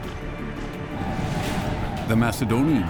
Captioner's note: deep rumble